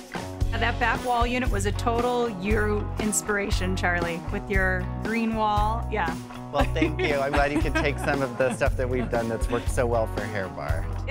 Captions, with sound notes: (upbeat music) - And that back wall unit was a total you inspiration, Charlie, with your green wall, yeah (laughing). - Well thank you, I'm glad you can take some of the stuff that we've done, that's worked so well for Hair Bar.